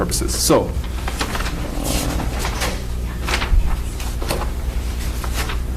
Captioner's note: papers crinkling